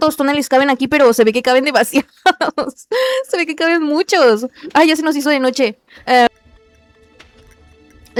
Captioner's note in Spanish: risas